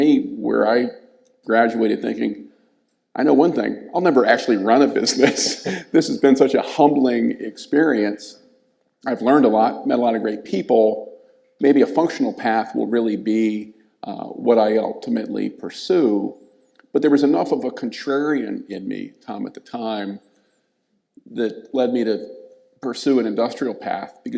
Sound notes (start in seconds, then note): 5.0 laughs